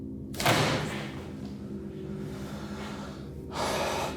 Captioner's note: suspenseful music; basket creaking; thudding; Danny sighs